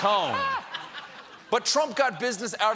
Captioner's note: laughter